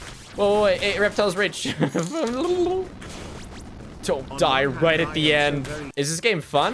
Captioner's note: laughs